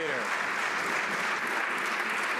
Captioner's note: some Applause